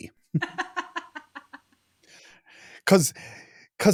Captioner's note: laughing